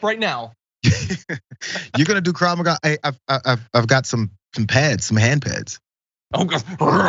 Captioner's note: laugh